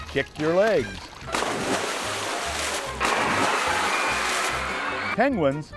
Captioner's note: sounds of splashing